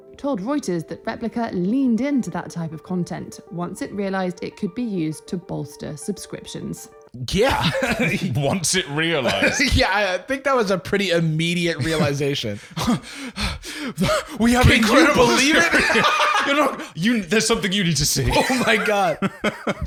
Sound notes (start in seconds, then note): 12.5 gasping